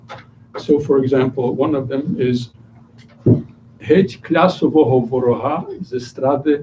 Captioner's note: non-english speech